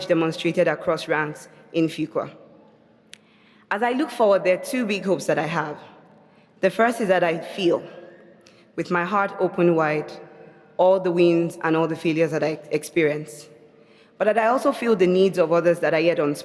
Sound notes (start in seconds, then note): none